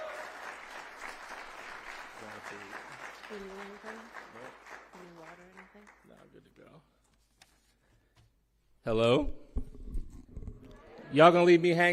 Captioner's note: cheering; applause